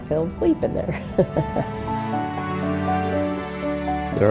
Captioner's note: chuckles